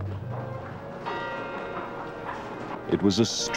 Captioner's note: bell rings